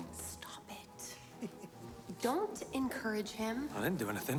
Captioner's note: Alex chuckles